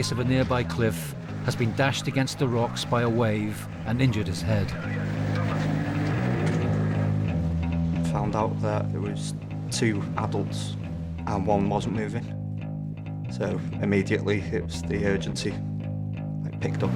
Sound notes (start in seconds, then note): 4.8 boat droning; 6.8 energetic music